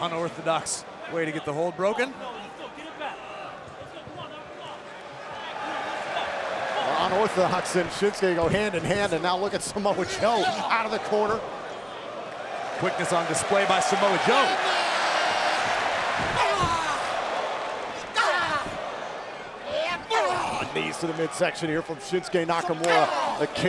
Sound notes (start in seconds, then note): 14.9 audience applauds and cheers